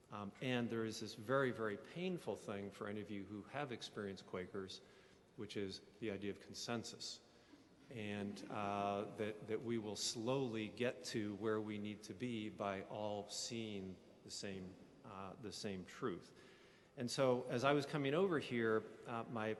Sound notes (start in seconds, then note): 8.0 people chuckle